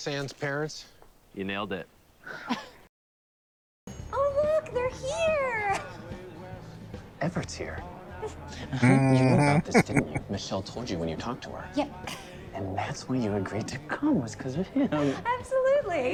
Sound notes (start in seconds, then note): 8.2 chuckling